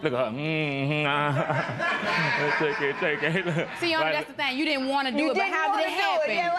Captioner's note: laughter